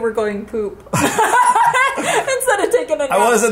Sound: both laughing

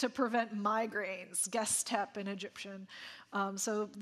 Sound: speaking in ancient Egyptian

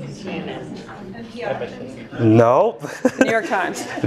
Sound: laugh

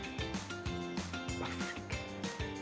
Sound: in low voice

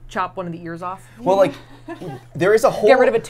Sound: laughs

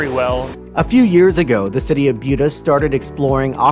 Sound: voiceover

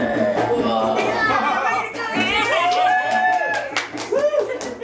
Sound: grunts; crowd cheering

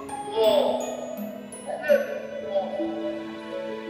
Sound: murmuring

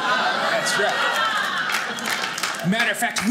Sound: audience laughing

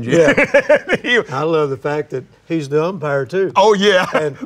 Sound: laughs

